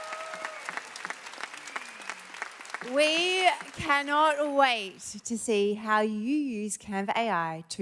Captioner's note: applause